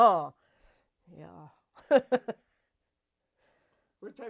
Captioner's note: laughs